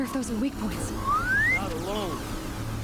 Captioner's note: whistle